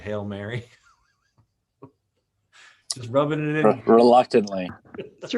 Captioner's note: laughs